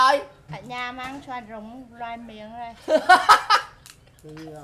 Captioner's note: laugh